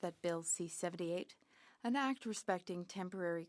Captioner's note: speaking French